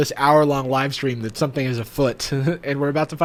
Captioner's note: chuckles